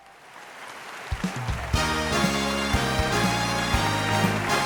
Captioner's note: audience applauding; upbeat music